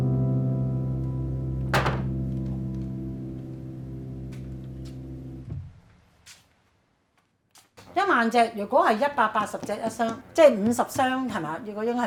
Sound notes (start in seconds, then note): 0.1 soft piano music stops; 1.7 sound of a cabinet closing